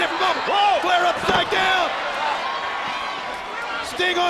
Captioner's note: exclaiming